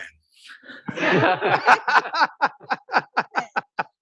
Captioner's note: laughter